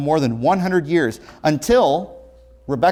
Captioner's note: ringing